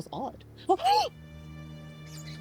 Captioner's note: shocked gasp